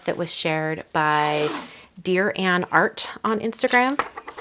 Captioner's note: tape ripping; tape roll rattling